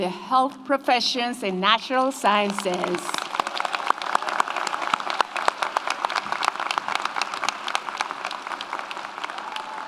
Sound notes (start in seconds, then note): 2.4 audience applauds; 2.6 audience cheers